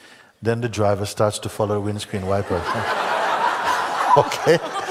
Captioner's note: Lachen